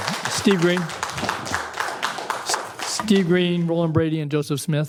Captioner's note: applause